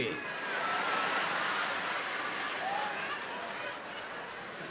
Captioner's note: crowd laughing